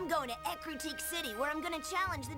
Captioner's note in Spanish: entusiasta